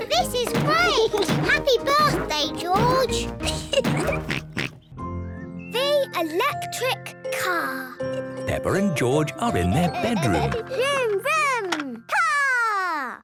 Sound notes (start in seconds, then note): 2.0 oinks; 3.4 laughs